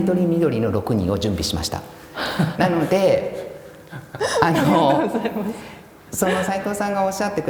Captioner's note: laugh